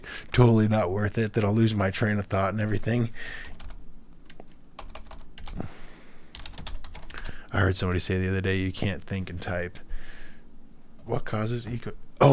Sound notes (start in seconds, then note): 3.8 typing